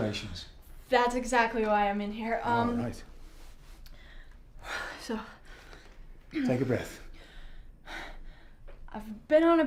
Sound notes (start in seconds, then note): 5.0 breathes deeply